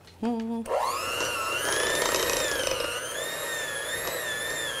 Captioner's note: mixer whirring